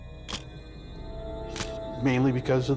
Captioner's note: shutter click